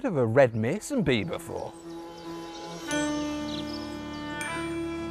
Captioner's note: calm music; buzzing